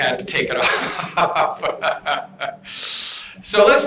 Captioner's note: laughter